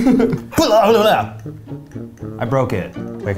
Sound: shouts

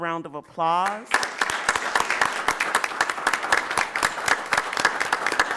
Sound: audience applauding

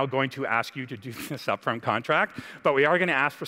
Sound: laughs

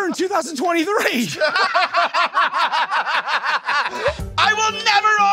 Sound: laughing

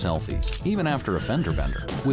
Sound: brakes squeal, cars crash

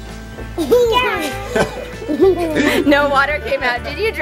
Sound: laughing

